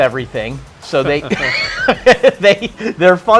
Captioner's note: laughing